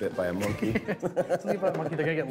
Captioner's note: laughter